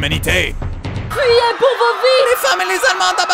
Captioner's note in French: cris de panique